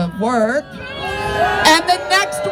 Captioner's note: crowd boos